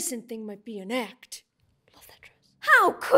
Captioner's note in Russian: шепотом